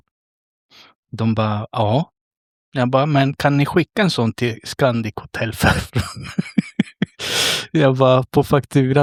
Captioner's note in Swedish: skratt